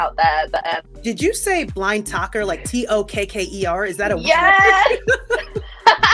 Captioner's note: laughs